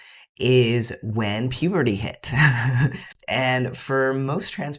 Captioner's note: none